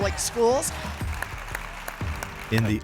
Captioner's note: audience applauds